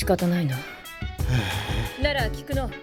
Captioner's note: sigh